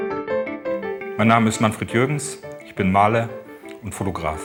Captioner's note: speaking german